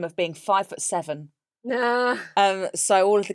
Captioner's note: laughs